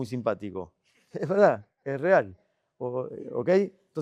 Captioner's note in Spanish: risas